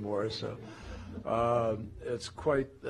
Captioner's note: laughter